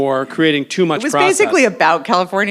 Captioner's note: phone chimes